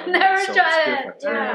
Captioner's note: laughing